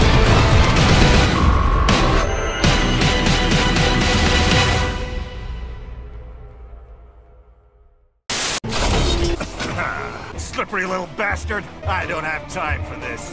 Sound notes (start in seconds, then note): 9.4 coughing/laughing